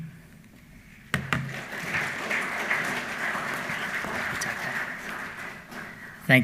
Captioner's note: applause